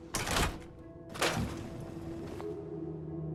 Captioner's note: intense ambient music; loud thump